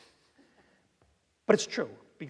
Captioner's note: laughing